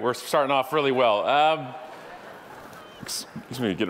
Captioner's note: audience laughing